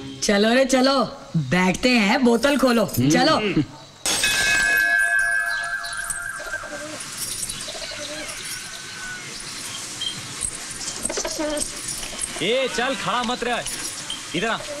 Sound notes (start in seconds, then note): 4.1 Bell rings